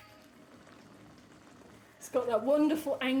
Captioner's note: sizzling